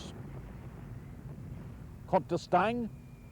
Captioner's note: mortar fire booming